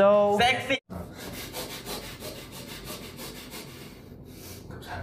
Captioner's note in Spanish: Respiración pesada